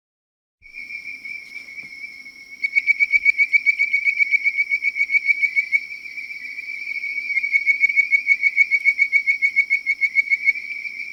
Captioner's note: bird-voiced treefrog call